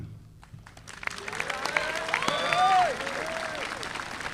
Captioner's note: audience applauding